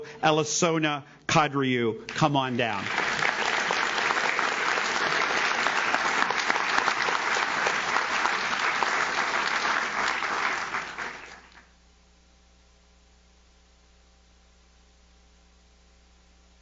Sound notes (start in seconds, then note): 3.2 audience claps